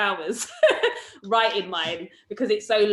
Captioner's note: laughs